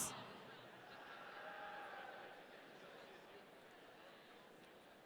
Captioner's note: audience cheering